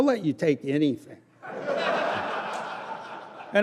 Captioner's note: laughter